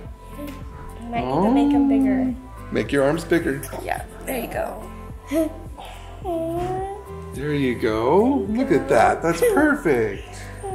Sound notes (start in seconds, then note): 5.7 giggles